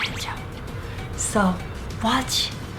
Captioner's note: whisper